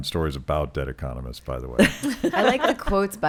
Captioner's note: laughing